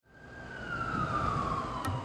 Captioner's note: traffic sounds